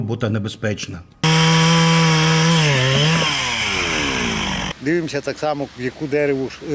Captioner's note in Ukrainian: Звук бензопилки